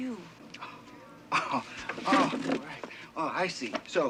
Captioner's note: scoffs